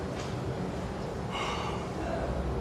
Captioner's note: deep sighing